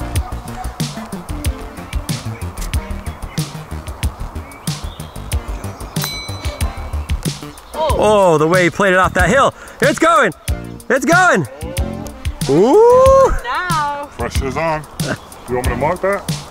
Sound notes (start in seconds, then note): 1.1 upbeat techno music; 6.0 bell dings